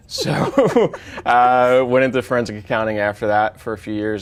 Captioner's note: laughing; chuckles